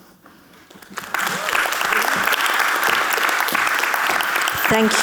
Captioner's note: audience clapping